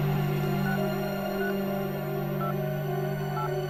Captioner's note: beeping